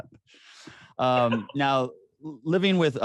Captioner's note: AJ laughing